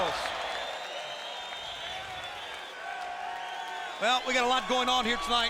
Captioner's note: applause